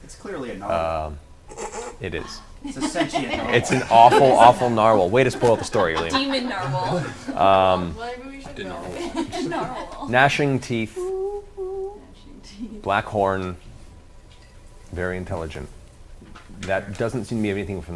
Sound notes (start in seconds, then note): 8.4 singsong